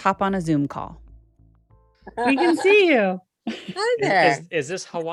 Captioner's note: on Zoom call